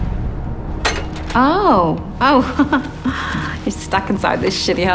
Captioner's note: chuckles